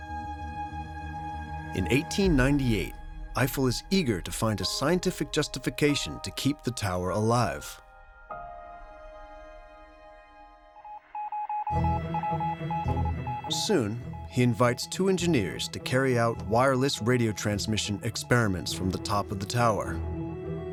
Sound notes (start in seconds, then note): 10.8 telegraph beeping